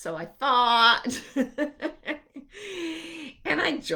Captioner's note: laughing